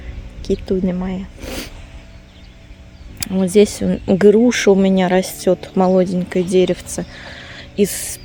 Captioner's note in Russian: фыркает